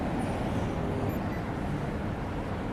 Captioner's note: walk signal chirps